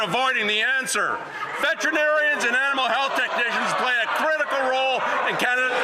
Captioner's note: some Applause